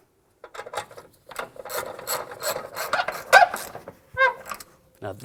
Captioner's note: wrenching